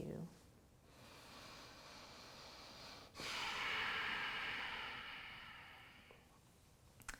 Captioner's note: breathes deeply